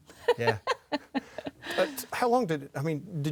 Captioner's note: laughs